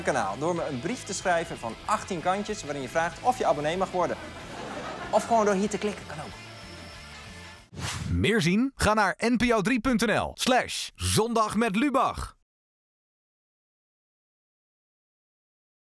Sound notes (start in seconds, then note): 4.1 laughing